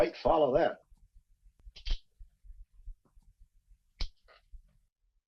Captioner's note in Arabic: نقرات أخف